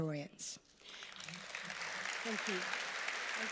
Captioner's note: applause